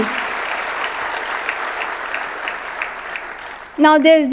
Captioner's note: audience clapping